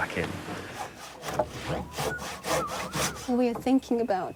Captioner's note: machine creaking